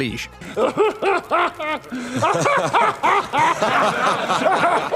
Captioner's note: laughter